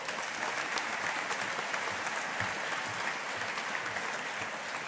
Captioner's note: audience applauding